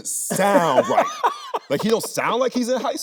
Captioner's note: Anthony laughing